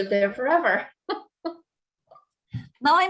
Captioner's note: chuckles